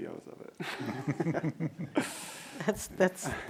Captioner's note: laughing